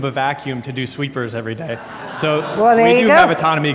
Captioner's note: audience laughs